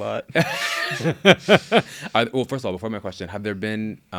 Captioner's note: laughs